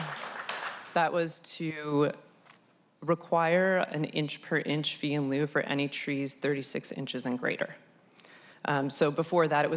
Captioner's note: applause